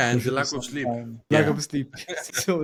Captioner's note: laugh